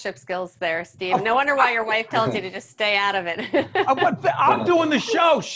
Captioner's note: laughing